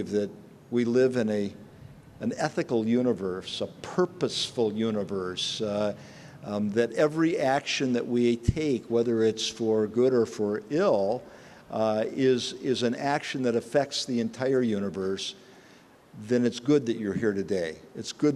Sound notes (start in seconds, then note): none